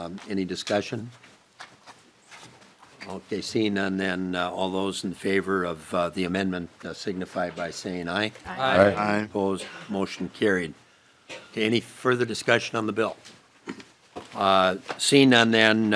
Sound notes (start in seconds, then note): 8.4 chorus of ayes